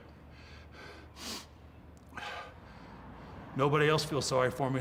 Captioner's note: Mark panting